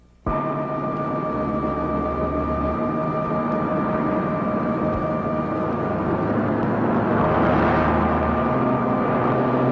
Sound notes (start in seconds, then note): 0.2 suspenseful music; 5.0 bus whizzing